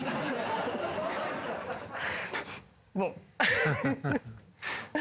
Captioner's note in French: Rires